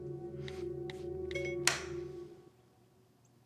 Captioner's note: phone beeping; lights clicking